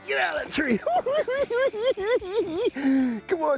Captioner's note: cackling